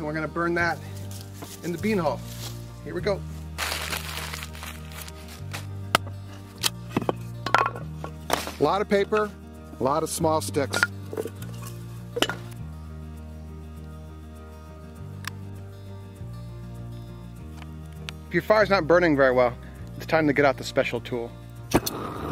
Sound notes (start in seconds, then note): 2.9 mellow band music; 3.6 newspaper rattles; 3.8 ax chops; 7.4 wood thumps; 11.3 wood thumps; 12.5 lighter clicks; 12.5 mellow electronic music